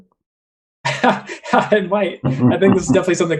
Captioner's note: laughs